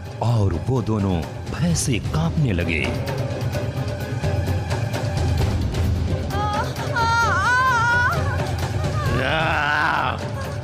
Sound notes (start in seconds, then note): 6.3 groans; 9.0 grunts